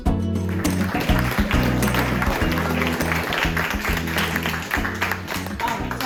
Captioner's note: applause